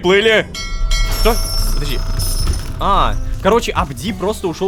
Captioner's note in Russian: Звук корабельного колокола